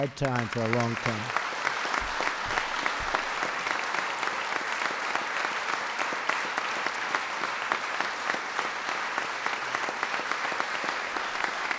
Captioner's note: spplause